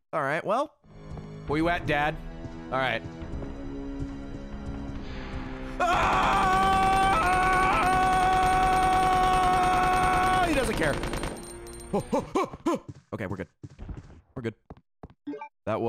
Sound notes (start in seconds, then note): 5.8 screams; 11.5 stress noises